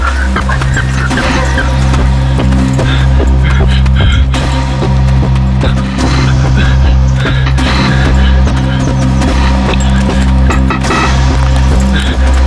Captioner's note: heavy breathing